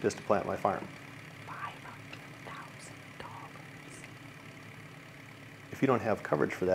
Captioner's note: whispering